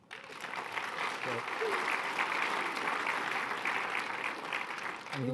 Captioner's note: applause